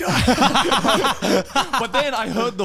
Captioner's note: men laughing